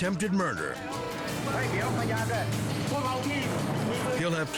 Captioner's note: police speaking in foreign language